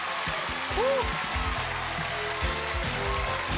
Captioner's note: audience applauds; theme music playing